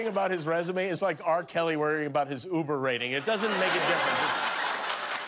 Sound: laughter

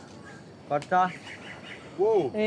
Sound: speaking in Portuguese

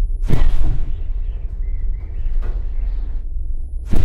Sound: birds chirping

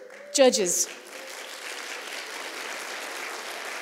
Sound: applause

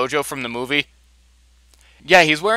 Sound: silence for comedic effect

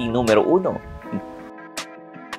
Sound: scoffs

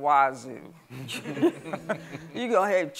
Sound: laughs

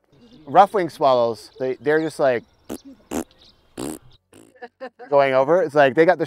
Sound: makes raspberry sound

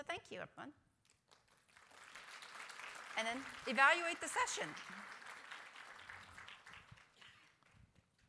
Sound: applause

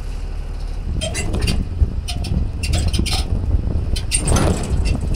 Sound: metal squeaking

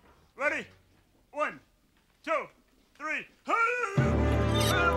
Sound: grunts; triumphant music; pulley screeching

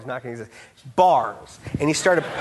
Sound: audience laughing

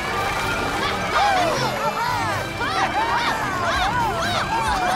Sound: cheering

